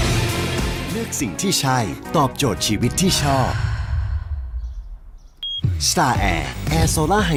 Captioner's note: sigh